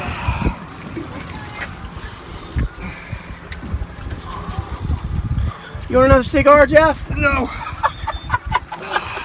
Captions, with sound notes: You want another cigar Jeff? No! (Laughing)